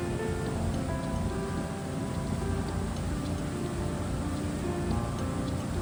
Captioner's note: steam